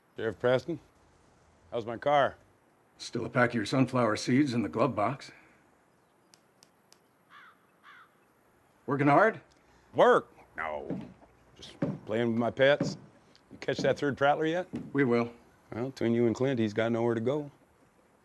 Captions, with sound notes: SHERIFF PRESTON. HOW'S MY CAR? THERE'S STILL A PACK OF YOUR SUNFLOWER SEEDS IN THE GLOVEBOX. [BIRD CAWS] WORKIN' HARD? WORK? NO. [FOOTSTEPS] JUST PLAYIN' WITH MY PETS. YOU CATCH THAT THIRD PRATTLER YET? WE WILL. WELL, BETWEEN YOU AND CLINT, HE'S GOT NOWHERE TO GO.